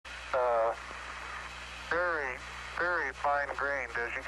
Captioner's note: AUDIO FROM 1st MOON LANDING